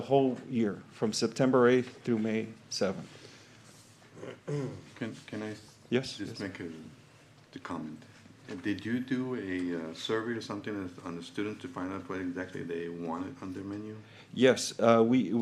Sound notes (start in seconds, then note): 4.1 clears throat